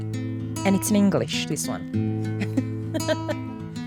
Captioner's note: mellow guitar music; laughs